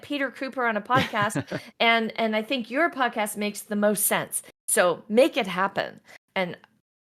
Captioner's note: laughs